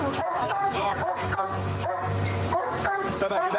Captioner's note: barking